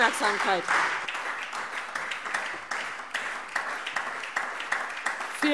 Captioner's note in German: Anhaltender lebhafter Beifall SPD